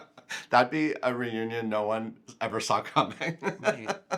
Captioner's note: laughs